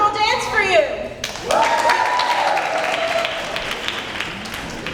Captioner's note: applause